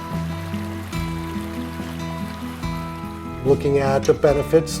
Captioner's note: lapping water; forlorn guitar music